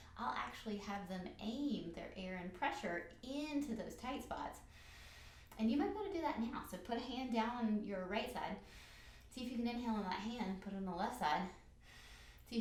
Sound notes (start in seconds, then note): 4.7 breathes in; 8.6 breathes in; 11.8 breathes in